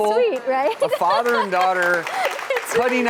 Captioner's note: clapping